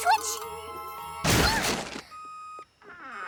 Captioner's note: grunts; beep! beep! beep!